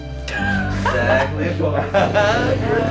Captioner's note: laugh